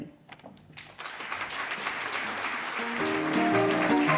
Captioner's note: applause